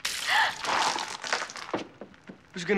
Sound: water splashes; gasps

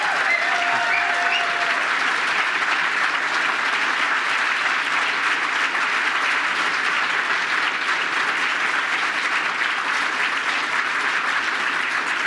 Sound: applause

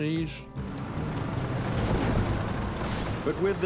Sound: tanks rumbling

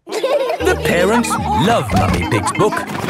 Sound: all laughing

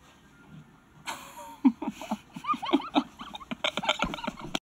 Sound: both chuckling

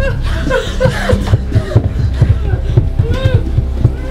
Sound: panicky breathing

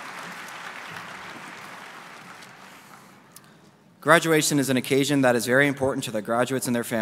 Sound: applause

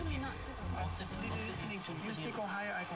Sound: indistinct chatter

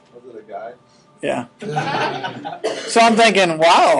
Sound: laughing

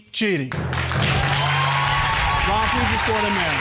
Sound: audience cheering

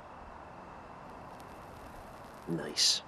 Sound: cigarette crackling

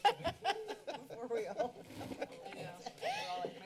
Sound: laughter; background conversations

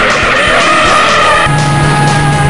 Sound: car screeching; engine sounds

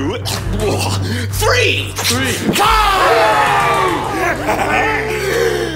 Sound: shouts

